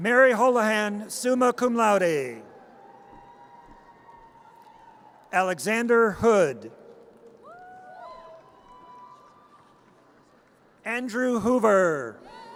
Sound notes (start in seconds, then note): 2.6 audience cheers; 7.4 audience cheers